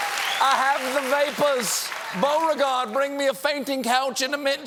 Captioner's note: cheers and applause